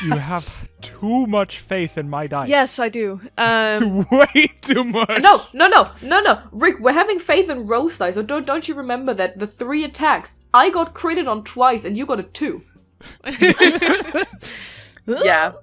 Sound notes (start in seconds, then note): 3.5 laughing; 13.2 laughter